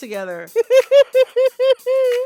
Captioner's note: laughter